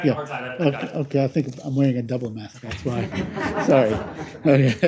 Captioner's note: laughter